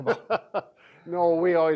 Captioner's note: laughs